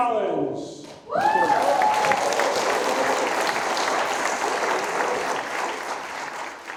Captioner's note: audience cheering and applauding